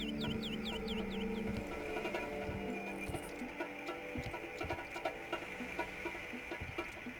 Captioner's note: birds chirping; tense music